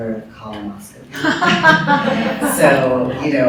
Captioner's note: laughter